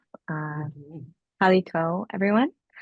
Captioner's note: non-english speech